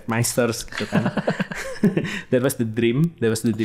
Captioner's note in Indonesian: tertawa